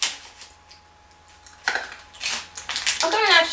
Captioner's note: crunches